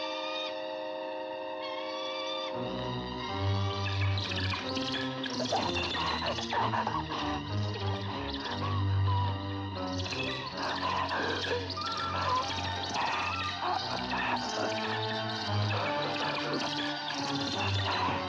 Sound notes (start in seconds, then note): 0.0 bird squawking; 0.0 ominous music; 3.6 bird chirping; 3.6 Gustaf gagging; 3.6 suspenseful music